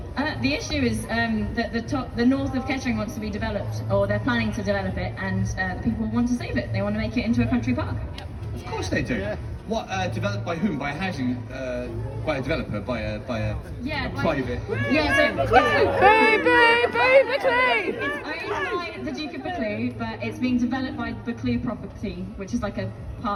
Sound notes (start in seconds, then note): 15.4 crowd